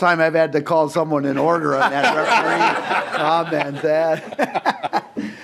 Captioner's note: laughing